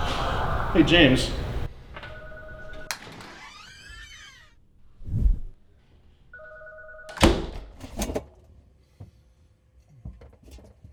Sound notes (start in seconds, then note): 2.8 door squeaks